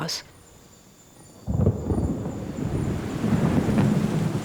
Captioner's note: thunder